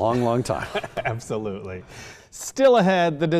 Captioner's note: both laugh